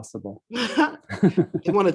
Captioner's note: laughter